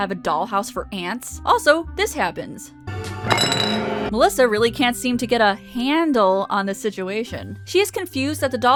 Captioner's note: hand falls